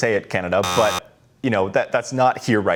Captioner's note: buzzer sounding